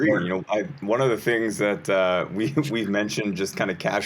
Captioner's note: chuckles